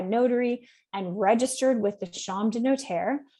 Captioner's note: speaks French